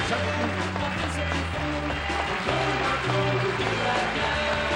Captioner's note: applause; theme music